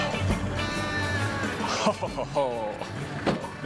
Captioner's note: chuckles